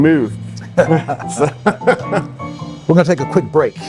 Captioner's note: laughing